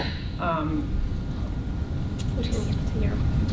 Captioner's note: whispering